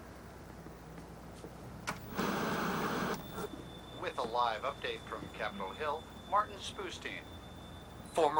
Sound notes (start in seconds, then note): 1.8 static hissing